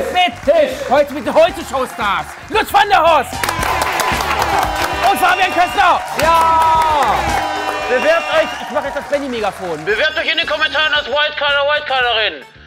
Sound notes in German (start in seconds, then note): 3.6 Jubel, Applaus